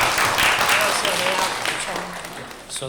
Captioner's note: audience clapping; Mandarin